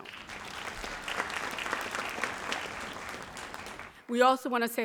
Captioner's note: audience applauds